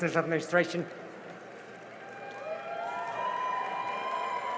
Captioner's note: cheering and applause